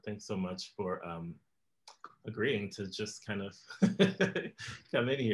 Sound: laughs

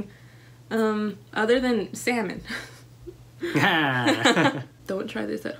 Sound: laughter

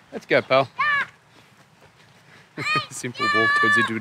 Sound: shouting

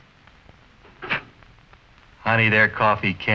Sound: blows

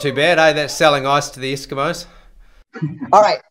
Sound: laughs

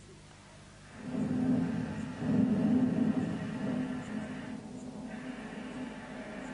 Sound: blows in the mike

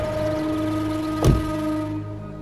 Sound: door closes

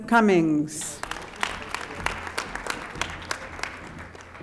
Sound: audience applauding

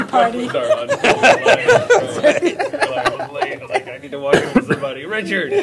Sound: laughter

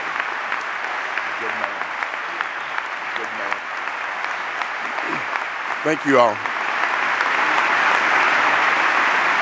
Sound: applause

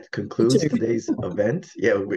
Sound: laughs

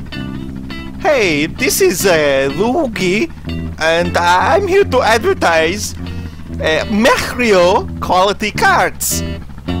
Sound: in a loose, stereotypically Italian voice

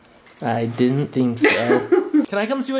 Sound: laughs

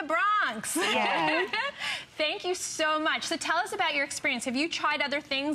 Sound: laughter

